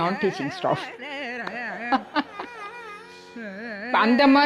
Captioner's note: laughs